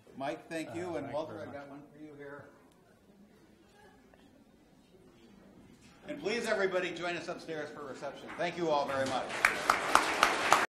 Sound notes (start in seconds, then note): 8.3 audience applause